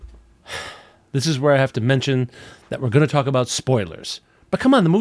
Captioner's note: sigh